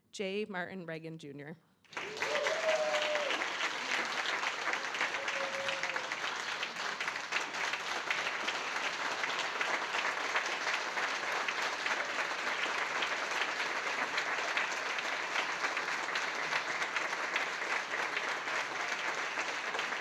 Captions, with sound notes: J. Martin Regan Jr. (audience applauding and cheering)